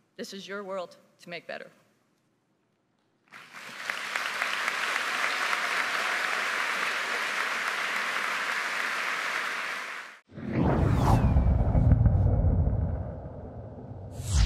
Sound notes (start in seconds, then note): 3.3 audience applauding; 10.3 spacecraft roaring